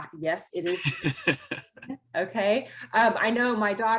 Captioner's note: laughs